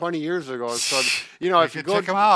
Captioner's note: laughs